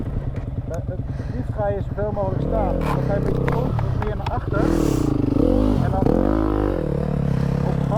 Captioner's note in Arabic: بالهولندية